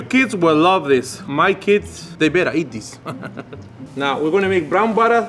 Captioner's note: laughs